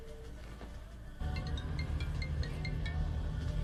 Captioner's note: cellulare che suona